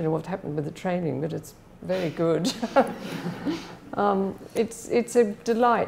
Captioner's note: laughs